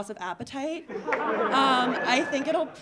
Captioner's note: audience laughing